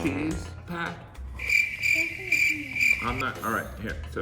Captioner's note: crickets chirping